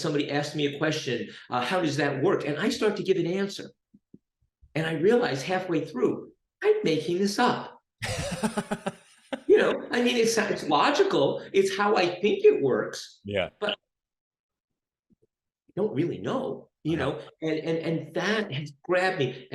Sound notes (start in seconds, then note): 8.0 laughs